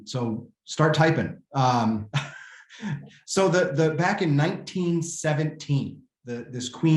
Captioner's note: laughter